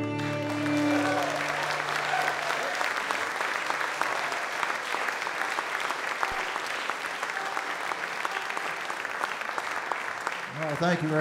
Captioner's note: audience Applause